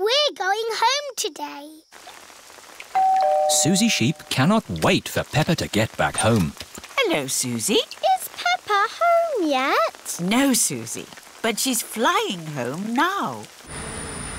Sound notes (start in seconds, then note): 2.9 doorbell rings